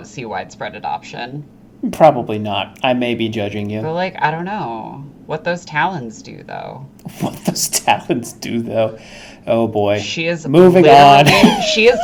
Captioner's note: laughing